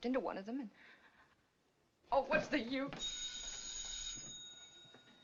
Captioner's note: phone Ringing